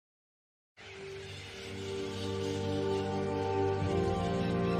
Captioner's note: birds screeching